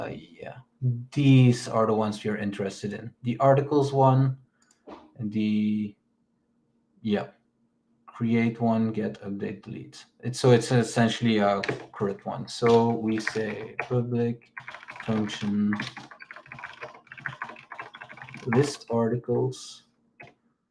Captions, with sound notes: Yeah, these are the ones you're interested in. The articles one yeah, create one, get update, delete. So it's essentially a current one. So we say public function, (keyboard clicks) list articles.